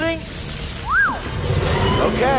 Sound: whistle

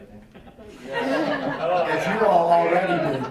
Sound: woman laughing

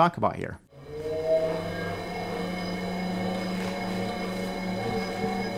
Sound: bike emits a hollow hum

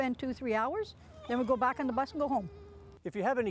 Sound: dog whines

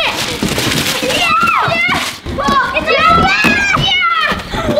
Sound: kids cheering

